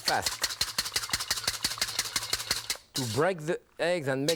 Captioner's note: whisk beating bowl